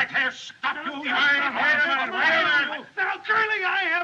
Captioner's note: both Shouting